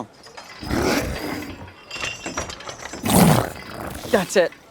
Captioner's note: Slurp groaning